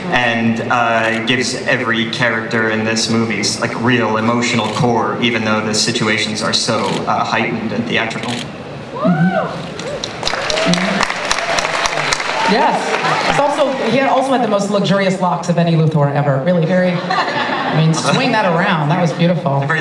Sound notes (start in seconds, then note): 8.9 audience cheering; 9.8 applause; 16.9 laughter